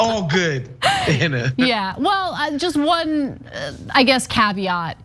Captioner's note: laugh